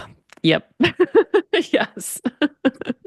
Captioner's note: laughs